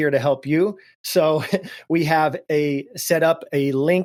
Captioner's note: laughs